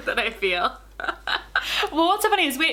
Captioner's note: laughing